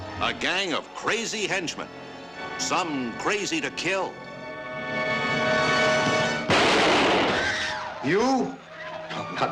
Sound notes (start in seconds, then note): 6.1 gunshot